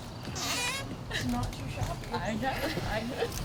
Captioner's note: crujido de la puerta